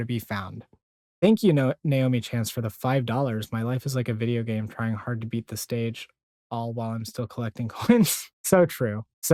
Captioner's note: giggle